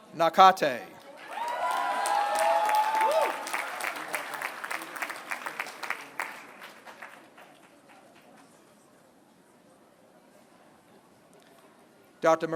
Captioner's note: applause